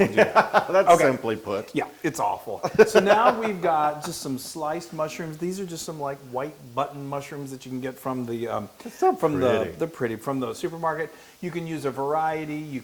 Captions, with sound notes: >> [LAUGH] That's simply put. >> Yeah, yeah, it's awful. >> [LAUGH] >> So now we've got just some sliced mushrooms. These are just some white button mushrooms that you can get from the- >> They're so pretty. >> They're pretty, from the supermarket. You can use a variety.